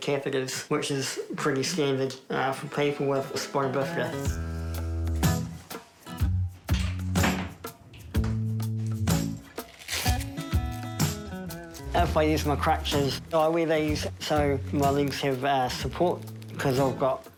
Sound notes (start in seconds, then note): 6.1 easy-going guitar music; 9.4 velcro rips